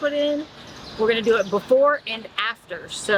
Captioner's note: birds chirping